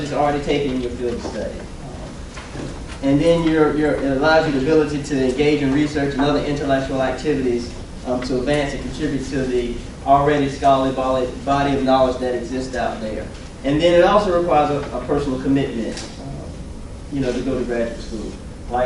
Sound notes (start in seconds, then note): none